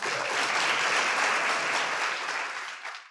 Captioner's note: audience applauds